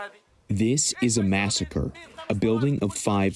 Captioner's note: through translator